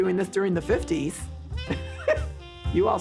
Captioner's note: chuckle